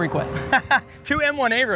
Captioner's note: laughing